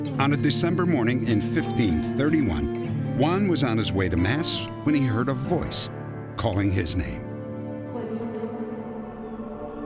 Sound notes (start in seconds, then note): 7.5 echoing